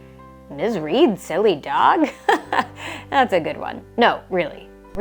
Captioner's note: chuckles